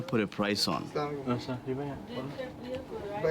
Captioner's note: non-english speech